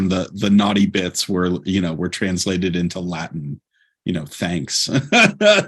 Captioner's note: laughter